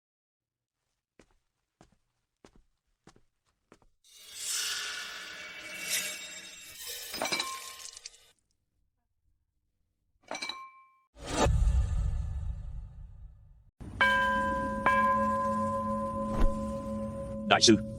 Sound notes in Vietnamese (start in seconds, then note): 14.0 chuông